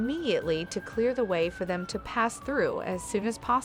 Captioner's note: emergency siren